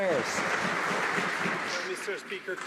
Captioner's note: some Applause